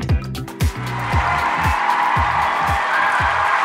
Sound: audience applause

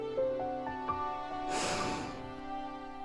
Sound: sighs

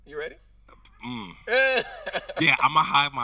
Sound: host laughing

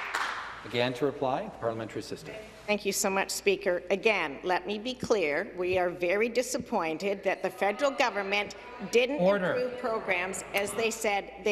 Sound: some Applause

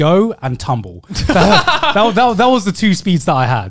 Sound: guys laughing

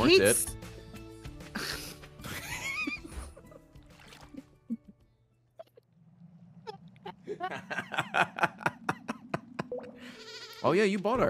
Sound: laughs

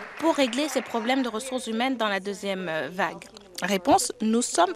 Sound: applause

